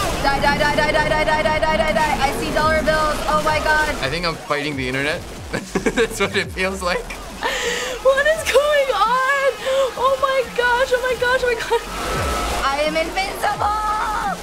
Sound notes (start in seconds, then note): 5.5 laughing; 7.4 gasping